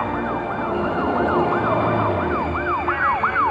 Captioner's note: police siren